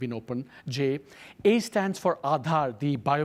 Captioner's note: speaks foreign language